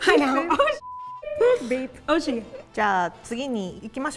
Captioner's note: laughing; bleeping sound; speaking in Japanese